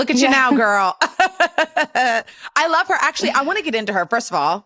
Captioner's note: laughs